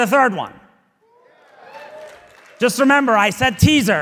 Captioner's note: audience applauding